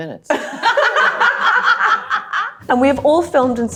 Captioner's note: everyone laughing